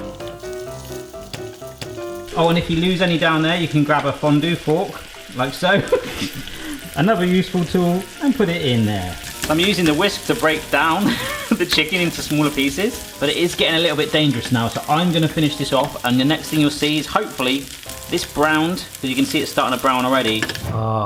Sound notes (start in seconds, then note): 0.0 upbeat music; 5.7 laughs